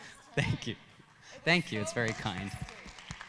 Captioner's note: audience applauding